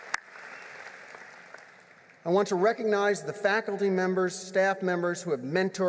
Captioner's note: applause